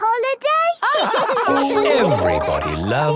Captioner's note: all laugh